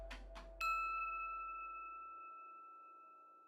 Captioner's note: bell rings